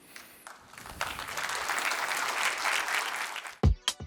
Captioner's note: applause